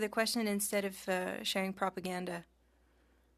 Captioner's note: speaking French